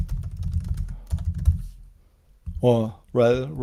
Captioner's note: keyboard typing